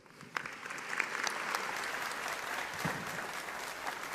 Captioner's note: audience applauding